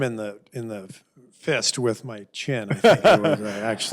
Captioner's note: laughter